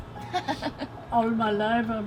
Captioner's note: laughing